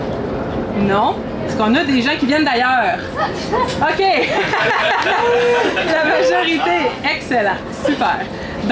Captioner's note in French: rires